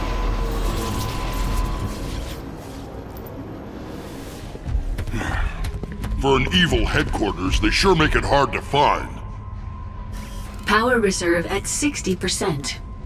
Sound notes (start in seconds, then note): 5.0 sighs